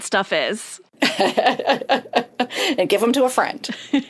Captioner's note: laughs